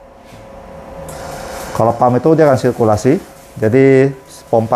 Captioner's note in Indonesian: suara mesin printer